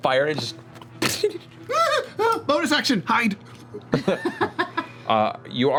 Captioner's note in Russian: скулит